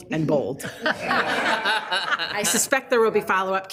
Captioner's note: group laughs